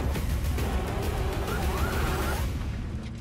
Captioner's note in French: sirène